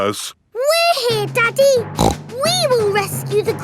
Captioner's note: snorts